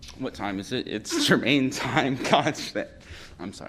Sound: laughter

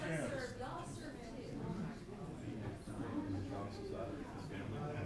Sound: people chattering

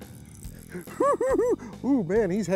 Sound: giggles

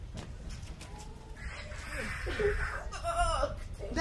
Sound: girl in pink laughs

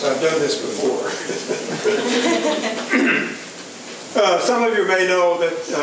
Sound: laughter

